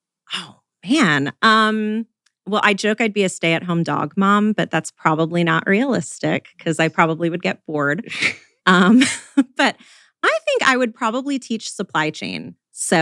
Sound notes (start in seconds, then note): 8.0 laughs